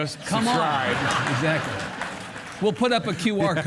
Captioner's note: audience laugh